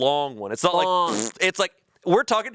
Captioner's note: imitates fart sound